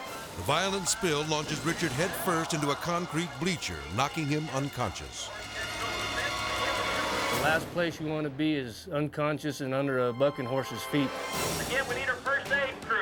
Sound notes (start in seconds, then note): 3.0 people clamoring; 5.7 intense music